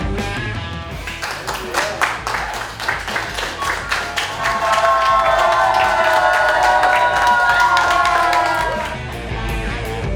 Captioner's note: cheering & Clapping